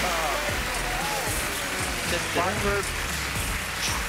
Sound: applauding; dramatic music

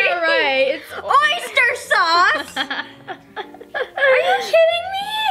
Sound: laughs

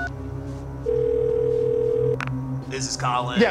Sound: phone ringing; phone dialing

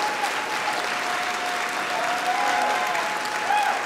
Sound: applause

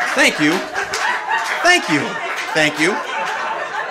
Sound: audience laughing

